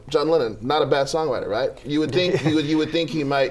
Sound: laughter

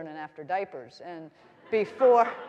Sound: audience laughing

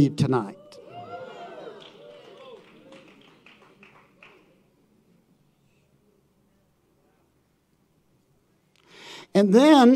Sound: audience cheering and applauding

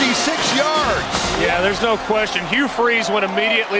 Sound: voiceover

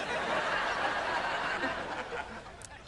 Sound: Jade chuckles

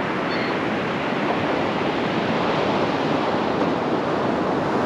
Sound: gulls squawking

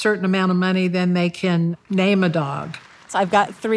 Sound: attendees applauding

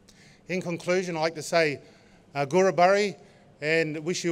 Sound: non-english speech

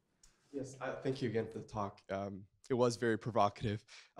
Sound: voiceover

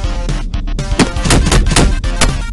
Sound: more smacking; smack

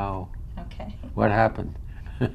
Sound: laughs

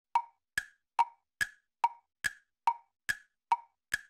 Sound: clock ticking

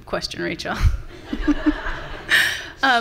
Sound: audience laughing

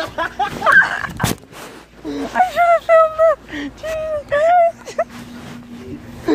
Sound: laughing at epic fail

